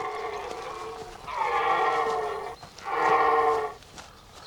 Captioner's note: deer roars